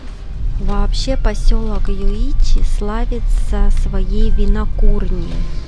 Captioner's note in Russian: закадровый голос